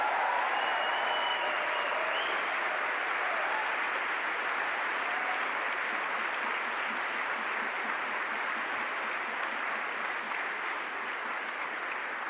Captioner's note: applause